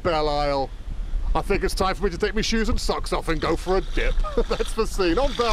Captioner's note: laughter